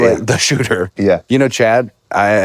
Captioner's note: laughs